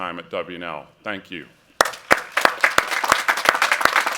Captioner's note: applause